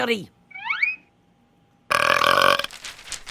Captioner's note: belch